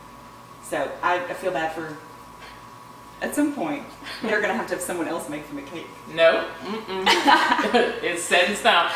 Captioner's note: laughter